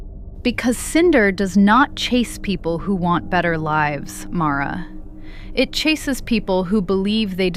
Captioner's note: sighs